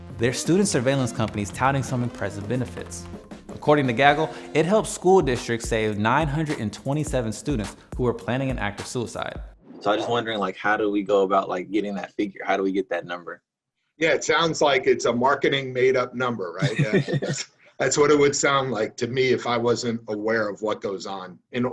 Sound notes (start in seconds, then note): 16.6 laughs